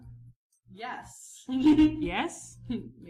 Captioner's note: giggles